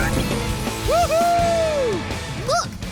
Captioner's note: cheering